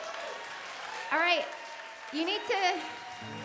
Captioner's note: crowd cheering